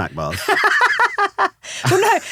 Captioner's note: laughing